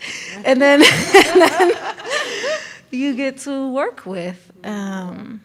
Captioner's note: laughs